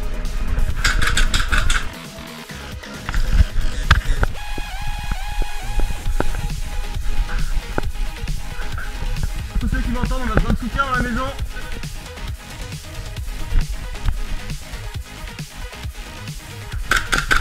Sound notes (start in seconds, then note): 2.0 radio